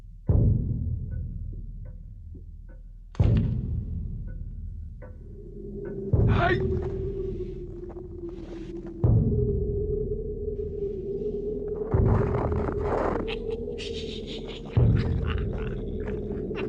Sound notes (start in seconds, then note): 5.4 weasels grunt; 12.2 weasels snicker